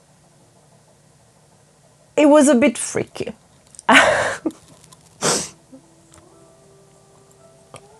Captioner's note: laughs